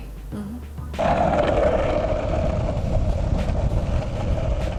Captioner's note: wheels rolling